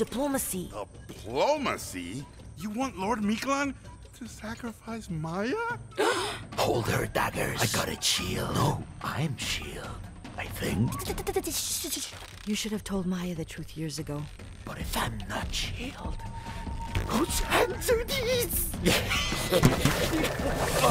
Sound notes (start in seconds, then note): 6.0 Maya gasps; 11.0 Maya shushing them; 18.8 other guards laughing